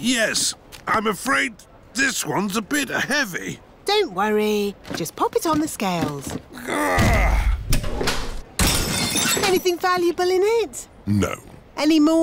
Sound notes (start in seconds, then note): 6.5 grunts; 8.6 crashes